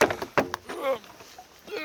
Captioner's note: grunting